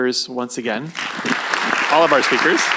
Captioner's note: applause